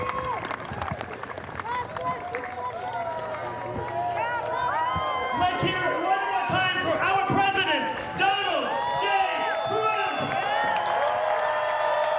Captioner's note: cheers and applause